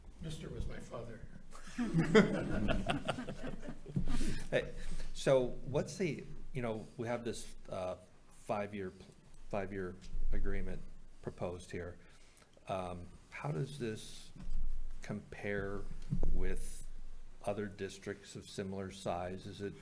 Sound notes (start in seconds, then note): 1.6 group laughing